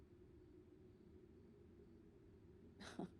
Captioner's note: chuckles